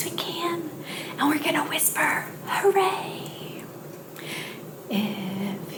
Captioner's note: whispered quietly